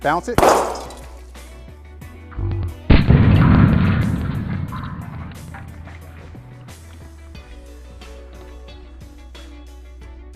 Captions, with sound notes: I can squeeze it, bounce it. (explosion) (dramatic music)